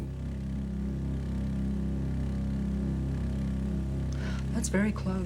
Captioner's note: low humming